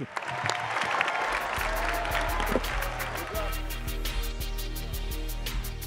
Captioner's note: attendees applauding